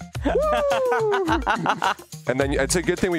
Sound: laughing

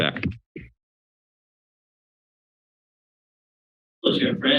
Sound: silence

